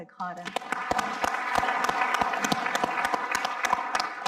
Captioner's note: audience applauding